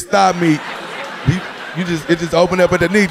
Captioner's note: audience laughing